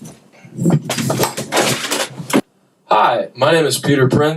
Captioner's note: crashing sound